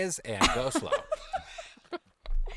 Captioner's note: giggling